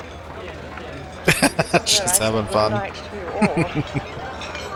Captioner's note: laughing